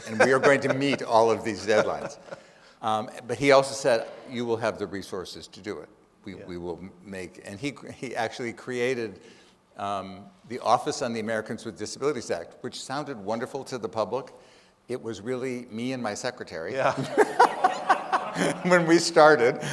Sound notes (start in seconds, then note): 16.8 laughs; 16.9 audience laughing